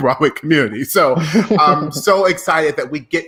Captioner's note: laughing quietly